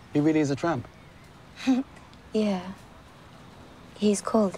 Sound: laughs

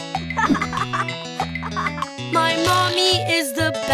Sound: boy laughs

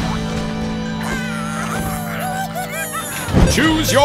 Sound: cheering

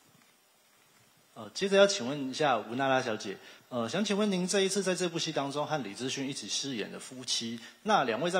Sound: speaking in Taiwanese

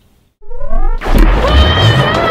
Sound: electronic buzzing; rocket firing; yelling

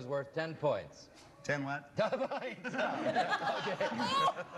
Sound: laughs

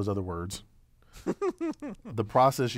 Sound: laugh

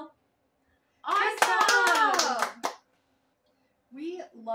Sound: clap

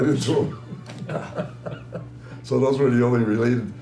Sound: laughter

